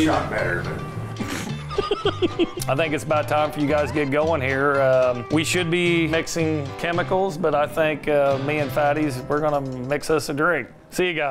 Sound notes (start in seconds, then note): 1.2 laughing